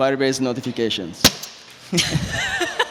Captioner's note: bang; laughter